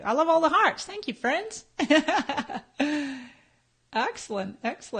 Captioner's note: laughs